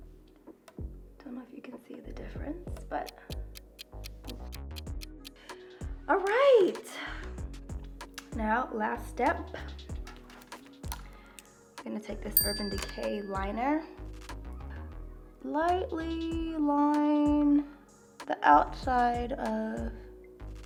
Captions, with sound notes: Tell me if you can see the difference but. [clock ticks] All right, now last step, I'm gonna take this Urban Decay liner, lightly line the outside of my lips.